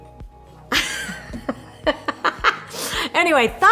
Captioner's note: laughs